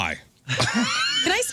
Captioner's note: laughing